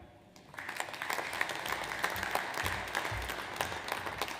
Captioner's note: audience applauds